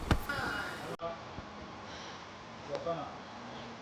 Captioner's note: none